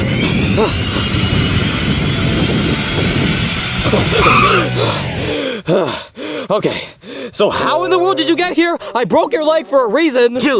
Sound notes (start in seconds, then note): 0.0 air whooshing; 0.1 Mario panting; 4.2 tires screeching; 5.1 Mario panting